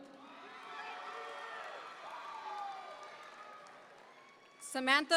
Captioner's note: audience members cheer